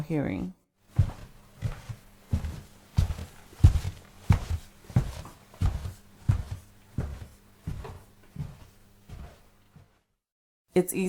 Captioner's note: footsteps